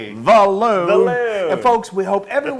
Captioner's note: laugh